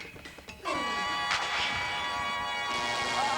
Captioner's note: siren wails